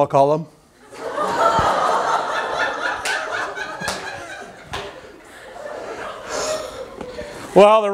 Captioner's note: laughter